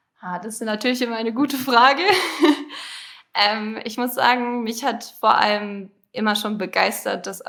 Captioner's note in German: gelächter